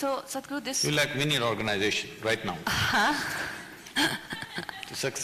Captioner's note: Kangana Laughs